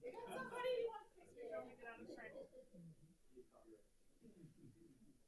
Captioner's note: speaker speaking faintly